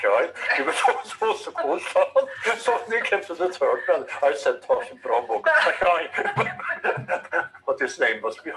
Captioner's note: both laughing